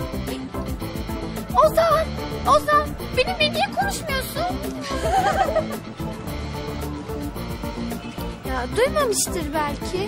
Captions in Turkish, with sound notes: Ozan? Ozan, benimle niye konuşmuyorsun? [GÜLME SESLERİ] Ya duymamıştır belki.